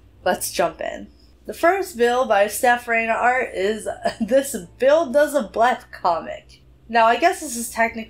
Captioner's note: laughs